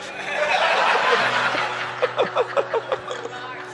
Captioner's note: laughing